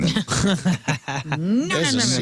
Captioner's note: laughing